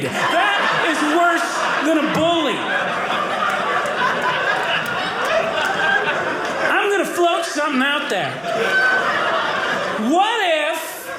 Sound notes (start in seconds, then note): 3.6 audience laughing; 8.8 audience laughing